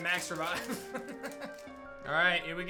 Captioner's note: laughs